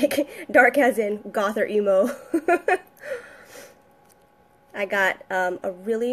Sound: giggling

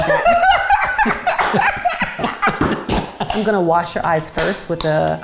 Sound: both laugh

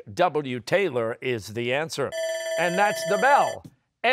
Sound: bell ringing

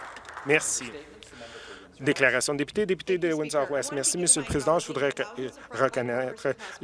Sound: some Applause

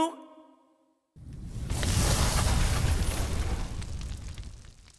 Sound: flames sizzle

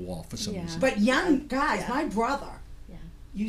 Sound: voiceover

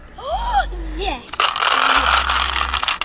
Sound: laughs; inhales excitedly; rocks rattling

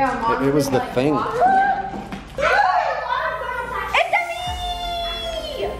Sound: kids excitedly chatting in the background

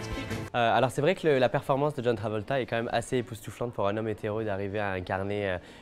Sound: speaking French

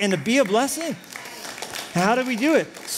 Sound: applause

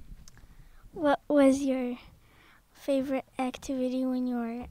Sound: voiceover

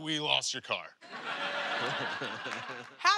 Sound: laughter

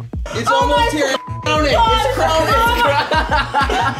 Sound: beep; laughing

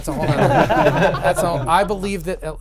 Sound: laughing

